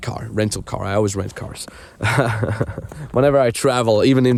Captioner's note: laughing